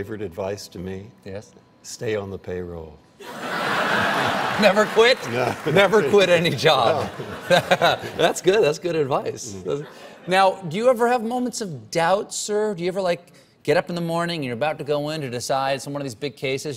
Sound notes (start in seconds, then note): 3.2 laughter